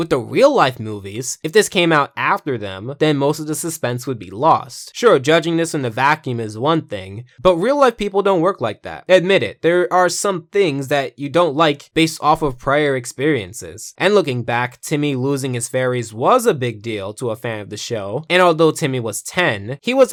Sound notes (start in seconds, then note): none